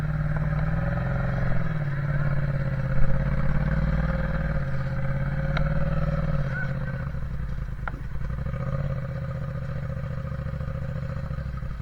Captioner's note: engine revving